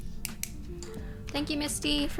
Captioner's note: pen clicking